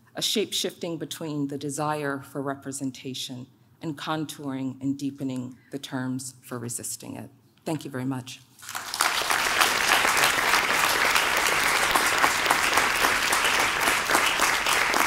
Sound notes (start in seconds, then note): 8.6 audience claps